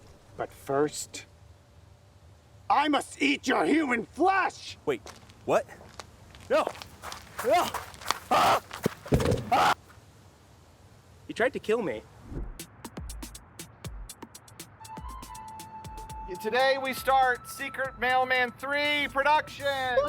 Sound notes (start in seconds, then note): 8.2 screaming; 12.4 upbeat music